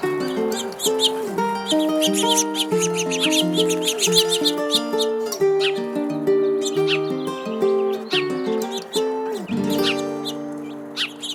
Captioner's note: birds chirping